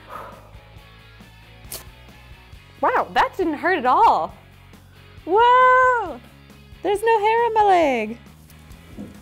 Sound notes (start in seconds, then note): 0.0 exhales; 1.6 rips